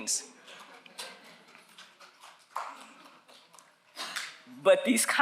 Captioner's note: audience applauds